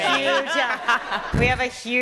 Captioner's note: laughter